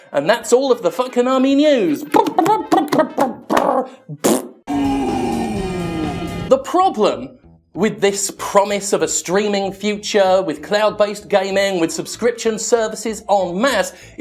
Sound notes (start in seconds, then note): 2.2 vocalizing trumpet music; 4.2 blowing raspberry